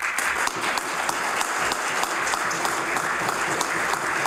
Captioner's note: applause